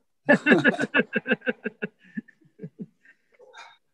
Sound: all laughing

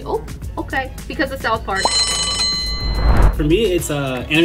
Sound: bell rings

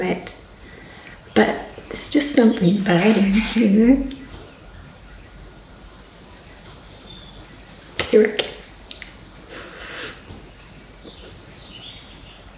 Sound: crying

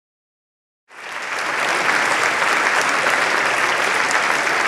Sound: applause

